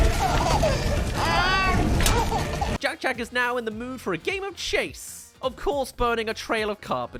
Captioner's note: runs* *Laughing